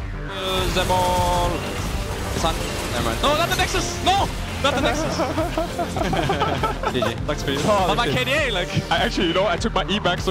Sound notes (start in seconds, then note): 4.3 laugh